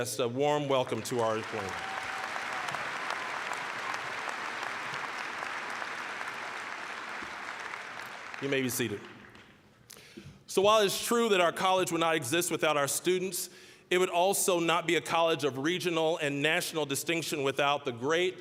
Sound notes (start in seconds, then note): 0.7 applause, cheering; 6.2 applause